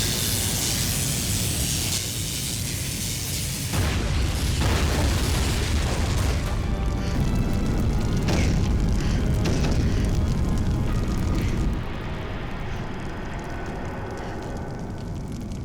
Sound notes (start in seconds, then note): 3.0 fiery boom; 6.7 fire crackles; 7.4 thunderous crash; 9.9 fire crackles